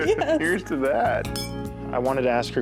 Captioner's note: glasses clink